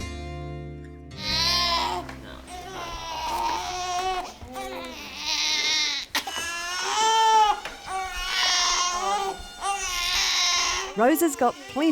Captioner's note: crying baby